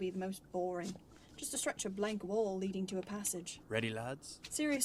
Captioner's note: footsteps stop